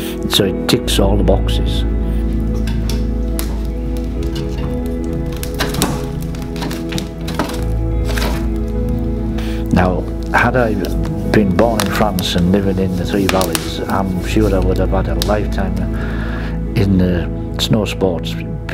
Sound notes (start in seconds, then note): 3.1 fire crackling; 6.3 gentle music continues